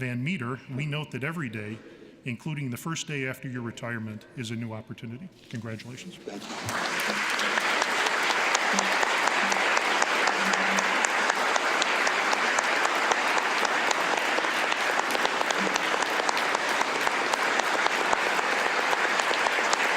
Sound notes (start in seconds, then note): 8.3 applause